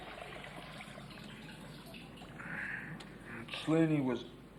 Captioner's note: water sploshing and pattering